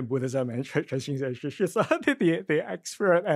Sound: speaks in foreign language

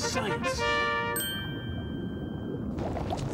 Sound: ding

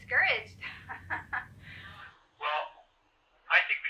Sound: laughter

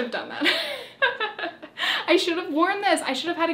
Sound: laughs

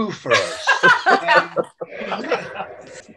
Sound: laughing

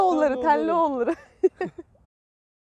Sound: laughings

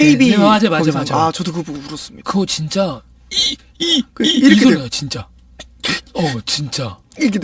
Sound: weeping

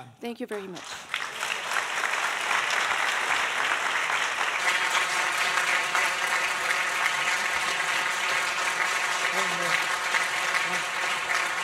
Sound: applause

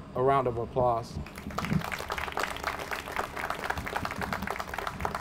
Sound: audience applauds

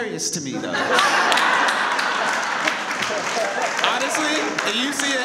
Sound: audience laughs and applauds

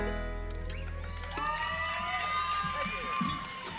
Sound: clapping

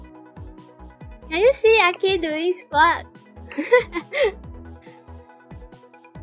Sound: laugh

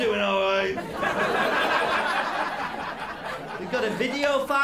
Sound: laughter

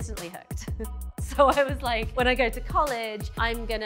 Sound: chuckling

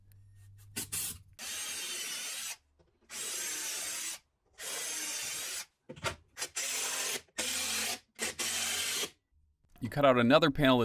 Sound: drill being used followed by impact driver

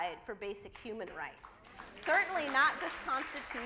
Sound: audience applauds

